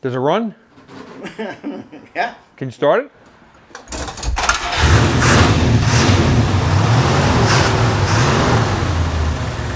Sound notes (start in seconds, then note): 1.2 laughs; 4.3 car engine roars to life